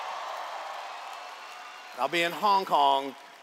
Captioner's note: cheers